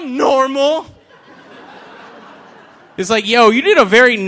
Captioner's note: audience laughing